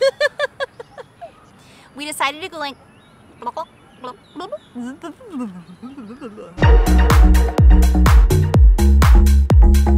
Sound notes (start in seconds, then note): 0.0 ضحك; 3.5 Blooping Noise